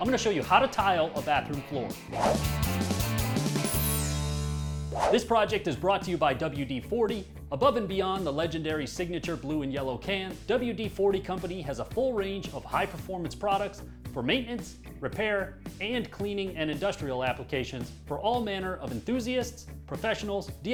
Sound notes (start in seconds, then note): 2.3 lively rock music; 2.3 whooshing